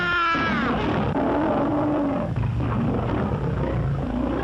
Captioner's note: growls